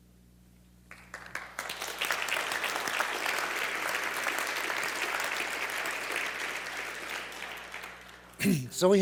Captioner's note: claps